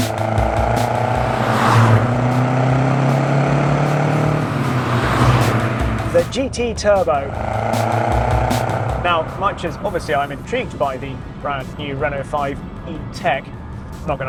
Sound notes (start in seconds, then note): 0.0 upbeat electronic music; 0.2 car roaring; 7.3 car roaring